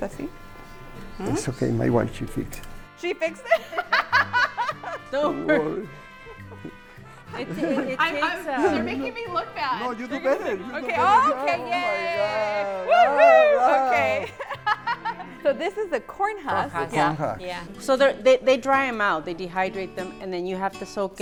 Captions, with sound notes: -You just put it in there. -Un poquito mas. -That's okay. My wife, she fix. -She fix [laughter]. They're making me look bad. -No. You do better. -Yeah! -So this is a corn husk. -Corn husk, yeah.